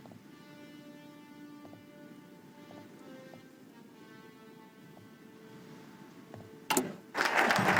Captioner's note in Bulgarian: Аплодисменти